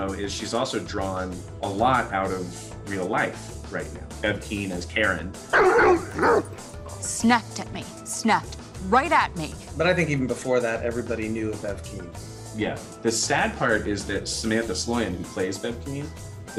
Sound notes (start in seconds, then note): 5.5 dog barks